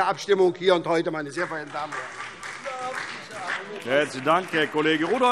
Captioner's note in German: Beifall SPD und vereinzelt DIE LINKE